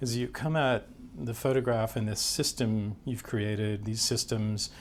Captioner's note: none